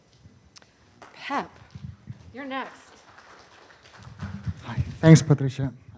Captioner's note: audience applauding